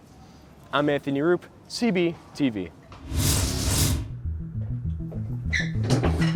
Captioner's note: scene change whoosh